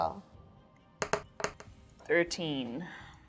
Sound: die rolling

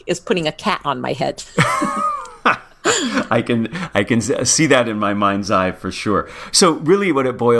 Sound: laugh

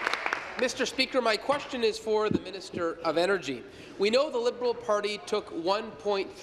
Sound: applause

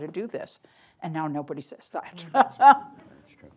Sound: chuckles

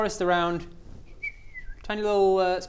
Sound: faint whistling

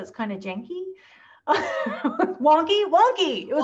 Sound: laughter

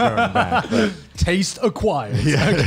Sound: laughs

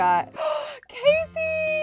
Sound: gasps

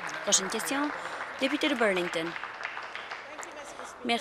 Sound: applause

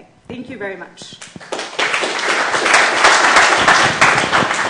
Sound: applause

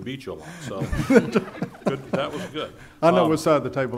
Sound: laughing

